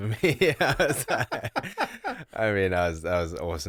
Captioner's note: both laughing